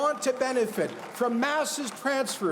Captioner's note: cheers and Applause